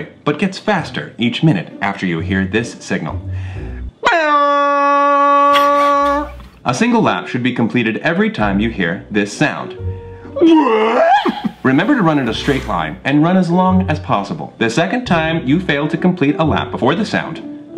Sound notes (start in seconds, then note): 3.8 mimics air horn; 10.4 yells